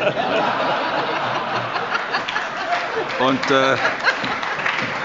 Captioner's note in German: Allgemeine Heiterkeit und Beifall